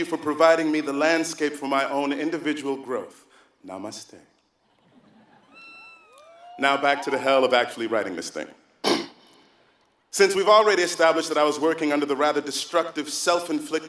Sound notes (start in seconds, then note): 5.3 applause; 8.8 cough